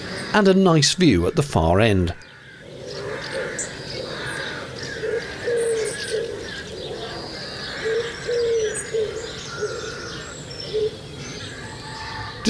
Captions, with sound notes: and a nice view at the far end. (Loud bird noises. Tweeting and screeching and cawing etc)